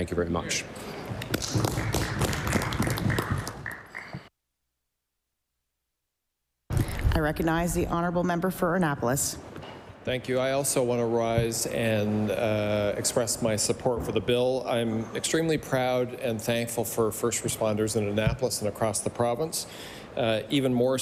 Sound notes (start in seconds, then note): 5.1 applause